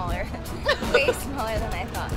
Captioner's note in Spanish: Laughter